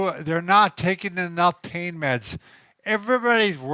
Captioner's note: none